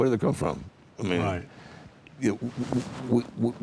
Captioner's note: pat